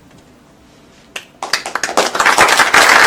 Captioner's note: applause